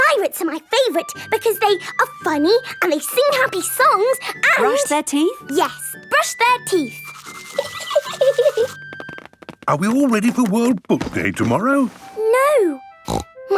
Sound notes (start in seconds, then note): 7.5 giggling